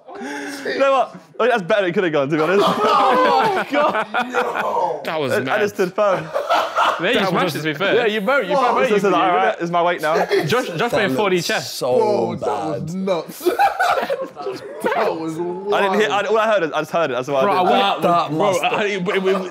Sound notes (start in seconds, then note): 0.0 group laughing; 2.4 group laughing